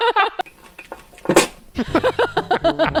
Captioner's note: laughing; coughing; laughing